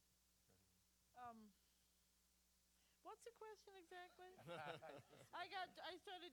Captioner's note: laughter